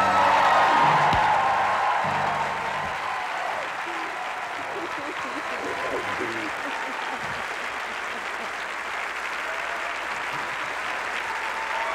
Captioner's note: song ends; crowd cheers